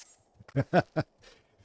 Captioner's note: laughs